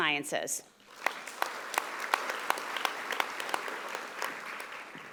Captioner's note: audience applauding